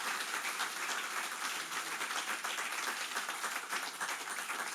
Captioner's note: applause